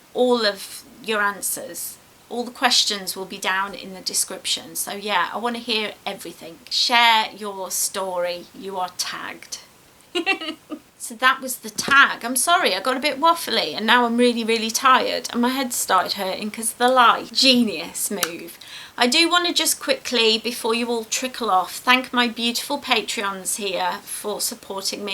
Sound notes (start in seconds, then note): 10.1 giggles